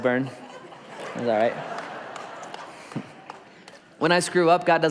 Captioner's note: congregation laughs